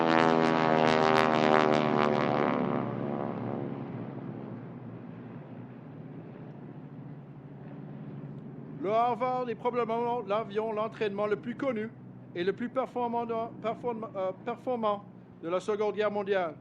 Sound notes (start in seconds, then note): 9.4 speaks French